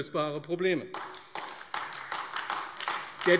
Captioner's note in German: Beifall AfD